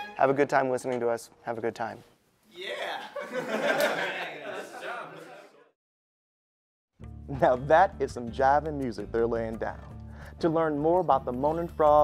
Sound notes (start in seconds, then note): 3.0 laughter